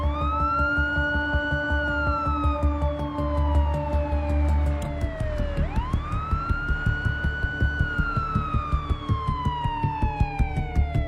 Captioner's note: police sirens